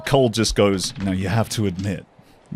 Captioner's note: dice rolls